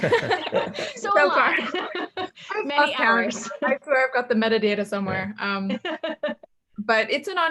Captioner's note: everyone laughs; laughs; laughs